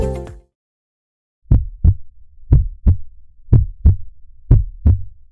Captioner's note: heartbeat sounding